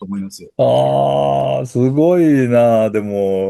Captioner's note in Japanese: うめき声